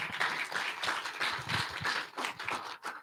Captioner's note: applause